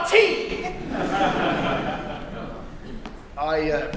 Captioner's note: laughter